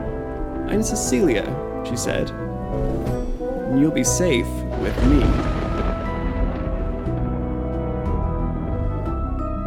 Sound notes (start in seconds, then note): 4.6 thunder